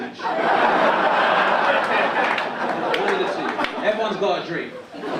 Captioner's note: audience laugh